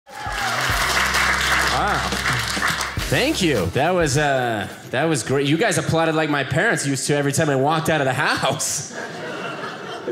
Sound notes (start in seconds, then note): 0.0 audience cheering